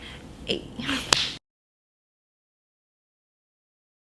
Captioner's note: hands clapping